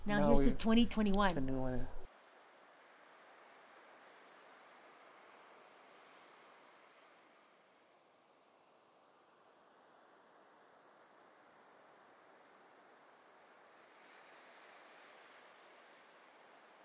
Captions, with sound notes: Now here's to 2021. (waves crash)